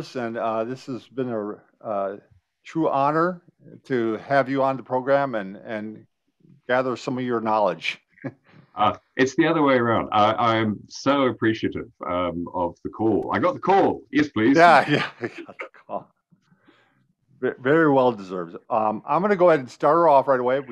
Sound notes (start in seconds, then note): 8.1 laughs; 14.2 laughs